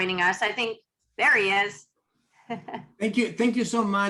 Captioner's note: laughs